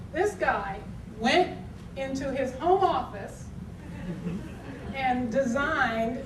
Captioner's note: audience tittering